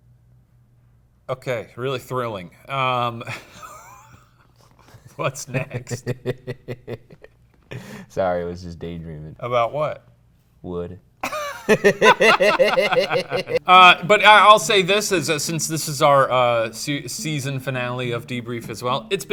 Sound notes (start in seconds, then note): 3.2 laughs; 11.2 both laugh